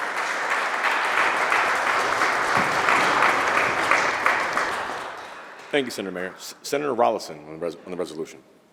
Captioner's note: applause